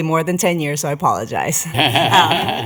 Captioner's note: laughter